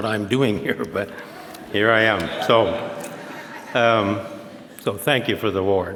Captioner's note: audience laughs